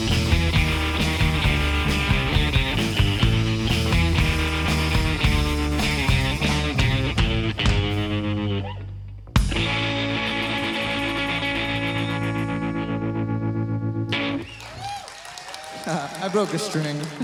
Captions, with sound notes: (audience cheers) I broke a string.